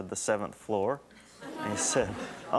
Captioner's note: audience laughs